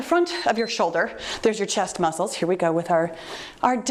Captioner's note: timer beeps